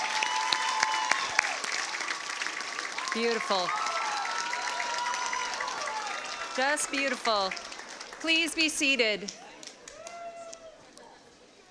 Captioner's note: cheers and applause